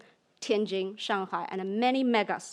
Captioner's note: speaks in foreign language